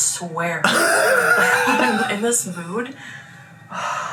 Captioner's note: laughs